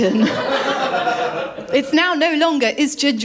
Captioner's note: laughter